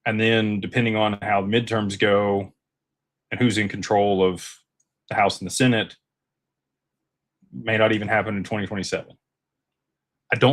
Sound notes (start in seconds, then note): none